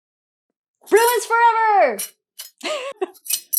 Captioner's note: laughs